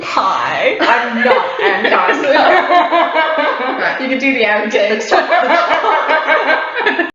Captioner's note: laughs